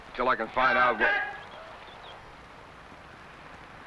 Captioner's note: man shouts